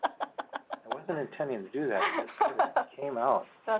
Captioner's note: laughter